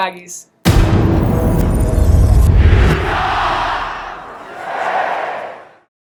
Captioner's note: Loud boom and short cheer "Utah State"